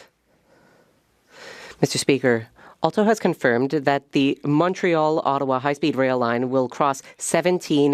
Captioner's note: speaking French